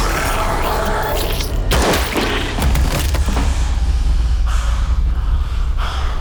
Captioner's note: zombie growls; blood squelches; head thuds; dramatic music